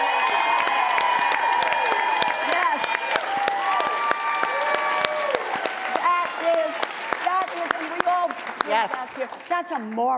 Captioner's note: applause